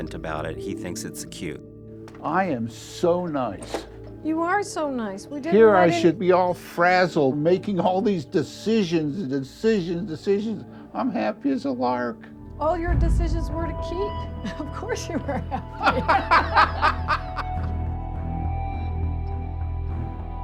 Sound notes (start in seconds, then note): 15.0 laughter